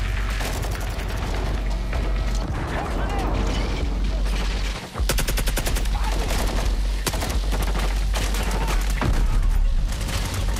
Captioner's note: gunshots